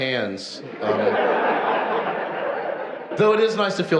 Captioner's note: audience laughs